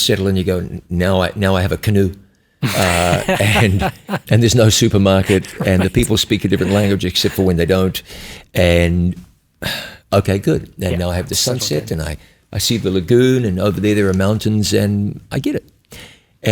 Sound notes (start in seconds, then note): 2.6 chuckles